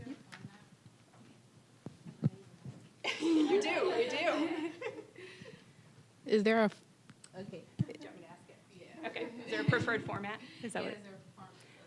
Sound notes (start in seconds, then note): 3.0 all laughing